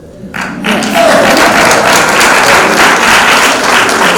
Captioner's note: applause